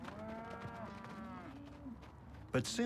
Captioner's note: mooing